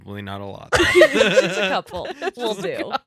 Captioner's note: laughing